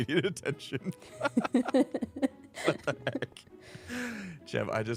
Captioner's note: laughter